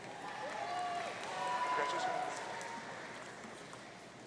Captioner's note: audience cheering